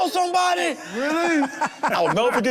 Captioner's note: group laughing